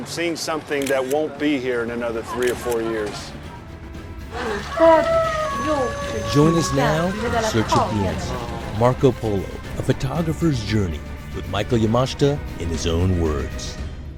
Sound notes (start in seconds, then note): 3.8 light upbeat music; 7.2 speaking faintly